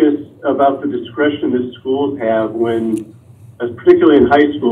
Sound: none

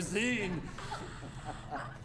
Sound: chuckling

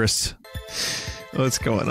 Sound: inhales

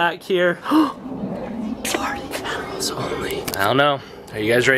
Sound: gasps

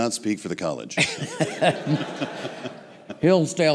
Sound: laughter

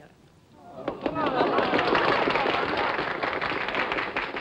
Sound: applause

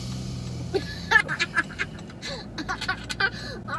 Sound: laughing

